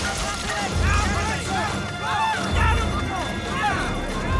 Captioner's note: exploding; police yelling